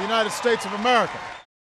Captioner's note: applause